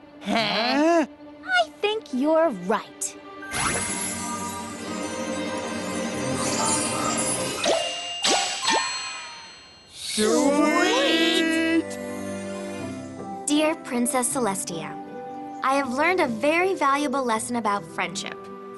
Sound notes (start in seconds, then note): 3.5 tinkling; 8.8 ding! Ding! Ding!